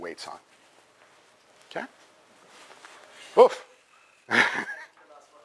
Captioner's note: pause